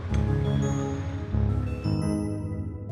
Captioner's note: waves lapping fades